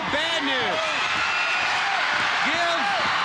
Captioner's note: audience cheering